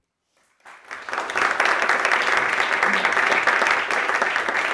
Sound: audience applauding

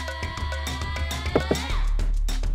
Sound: knock knock knock

